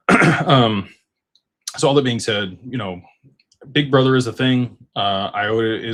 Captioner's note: clears throat and cough